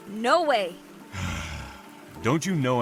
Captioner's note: annoyed sigh